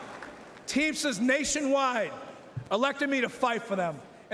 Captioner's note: cheering and Applause